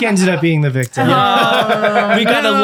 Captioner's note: all laughing